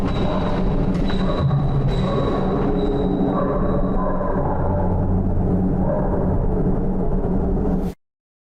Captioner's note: ominous sound